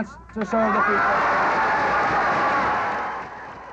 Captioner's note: applause